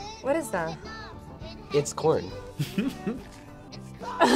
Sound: laughs

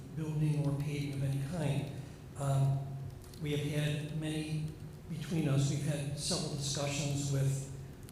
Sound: off microphone

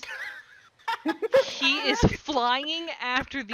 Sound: erupts into laughter

